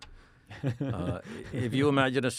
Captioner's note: laughs